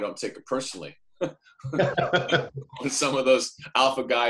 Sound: laughs

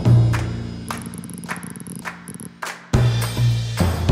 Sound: clicking

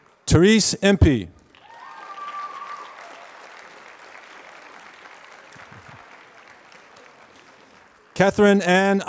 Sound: applause

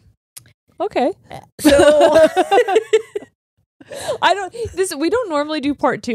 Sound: both laugh

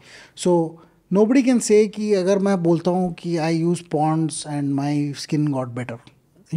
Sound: speaks in Hindi

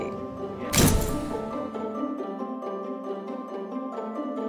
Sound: flash bulb popping

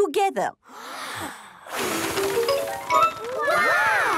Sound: big breath and blow

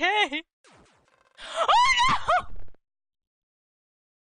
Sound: shrieking

